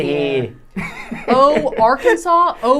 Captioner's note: laughing